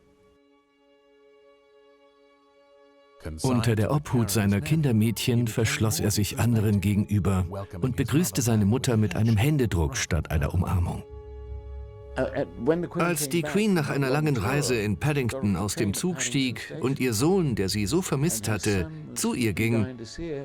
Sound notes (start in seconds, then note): 0.2 solemn music; 3.0 voiceover